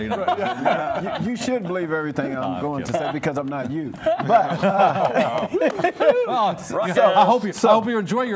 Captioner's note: laughing